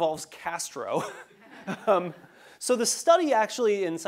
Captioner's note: laugh